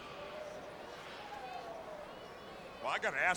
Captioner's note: crowd chattering